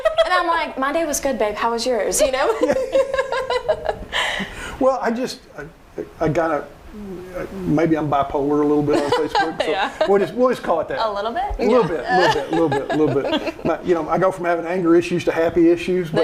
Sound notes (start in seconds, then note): 2.4 laughing; 8.8 laughing; 13.3 laughing